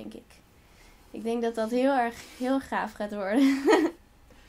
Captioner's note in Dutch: lacht